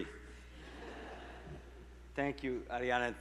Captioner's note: people laughing